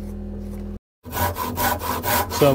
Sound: drilling

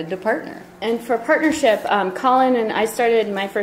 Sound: voiceover

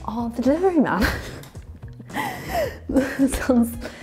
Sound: laughs

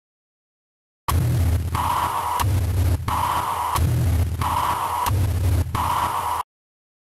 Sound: sound of doom

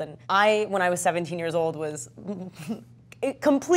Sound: chuckles

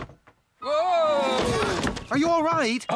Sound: crash!

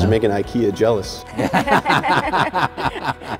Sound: laughing

